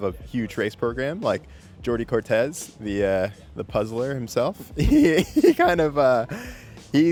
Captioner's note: laughs